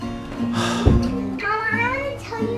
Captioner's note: sighs